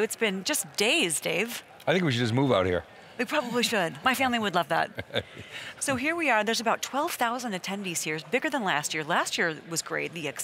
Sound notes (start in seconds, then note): 4.9 laughs